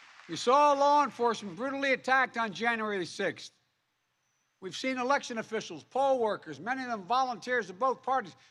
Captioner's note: applause